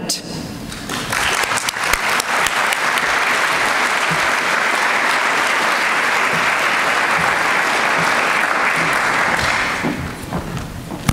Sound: applause

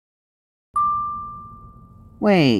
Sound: notification ding

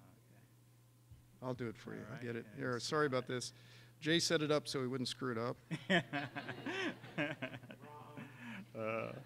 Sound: laughter

